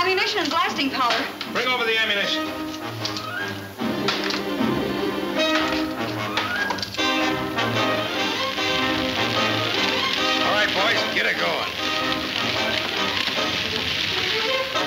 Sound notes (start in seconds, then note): 6.3 fire crackling